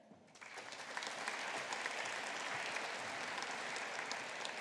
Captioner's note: audience applauding